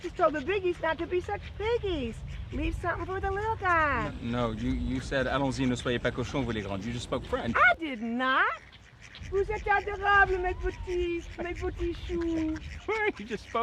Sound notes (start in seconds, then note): 5.9 Pierre speaking in French; 10.0 Cassie speaking in French